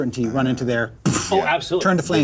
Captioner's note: imitates explosion